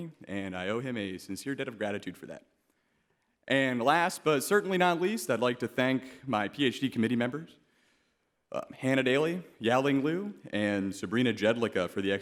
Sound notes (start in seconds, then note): none